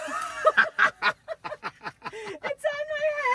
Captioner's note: both laughing